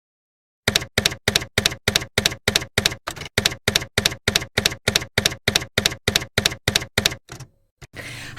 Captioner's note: typewriter keys clacking